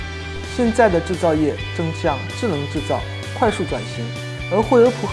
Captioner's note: speaks in a foreign language